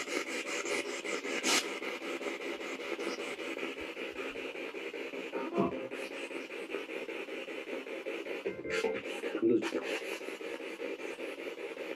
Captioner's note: radio noise from the spirit box